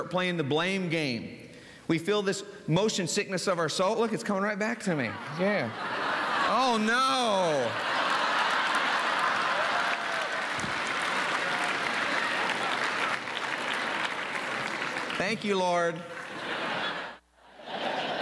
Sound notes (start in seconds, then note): 7.4 laughter + applause; 17.4 laughter